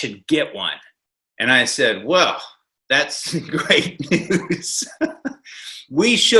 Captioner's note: laughs